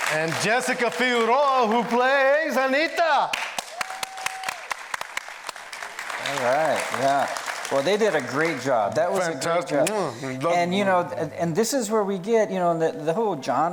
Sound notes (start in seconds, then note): 3.5 applause